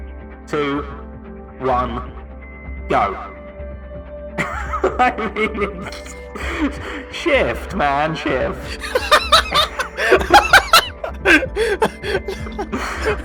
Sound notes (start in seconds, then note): 4.4 laughs